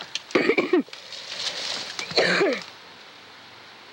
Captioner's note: coughing